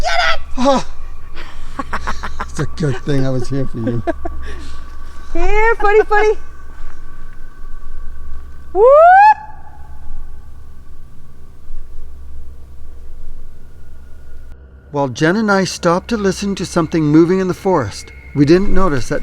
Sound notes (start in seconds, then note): 0.6 people laughing; 8.7 person howling